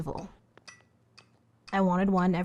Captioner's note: metronome clicking